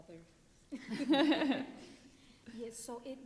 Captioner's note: panelists laughing